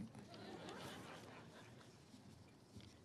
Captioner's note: all laugh